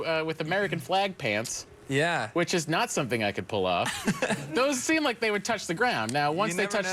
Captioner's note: laughter